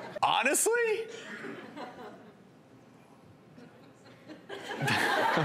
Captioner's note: audience laughs